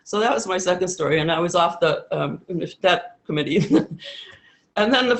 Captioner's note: chuckles